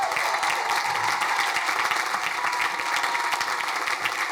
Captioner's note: crowd cheering